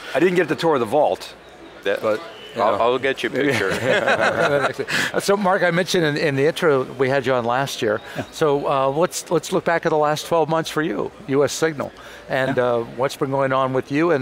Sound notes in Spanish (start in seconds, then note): 3.5 Riéndose